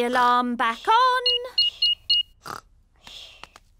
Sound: beeping

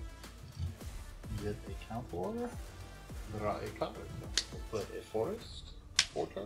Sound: none

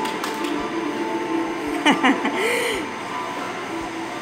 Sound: laughter

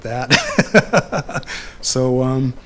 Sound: laughs

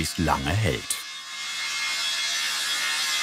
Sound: high-pitched whirring

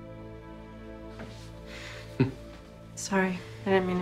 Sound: chuckles

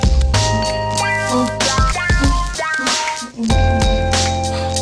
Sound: humming and snapping

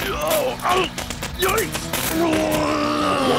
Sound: electricity crackling; grunts

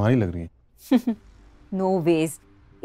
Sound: Komal chuckles

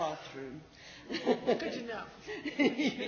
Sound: laughs

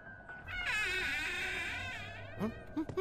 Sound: door creaking; suspenseful music

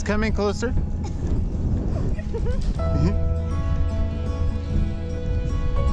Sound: laughing

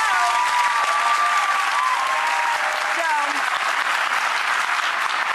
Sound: audience applause

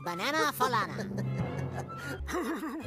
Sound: wakko laughing

